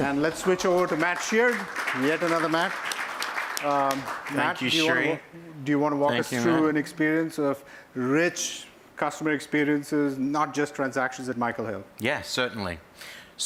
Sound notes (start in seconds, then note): 0.0 applause